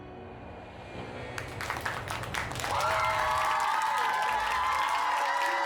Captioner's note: audience cheering